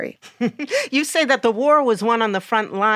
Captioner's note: chuckles